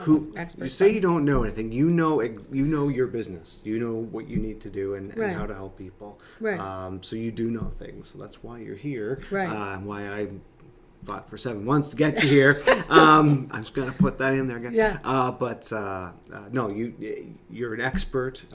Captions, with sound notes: Who, - Experts yeah. - You say you don't know everything, you know your business. You know what you need to do and how to help people. So you do know things, that's why you're here. Why I fought for seven months to get you here. (laughing) I'm just gonna put that in there again. But, no you're an expert.